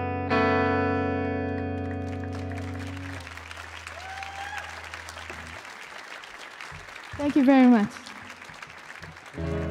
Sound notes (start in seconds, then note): 1.5 audience applauding and cheering; 9.3 light guitar music